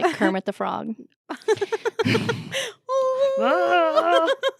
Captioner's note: laughing